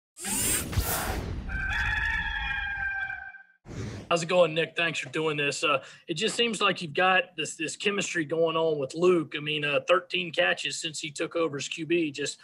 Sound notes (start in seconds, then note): 0.2 slide whooshes; 1.4 rooster crows